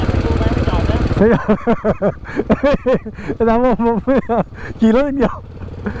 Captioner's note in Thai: เสียงหัวเราะ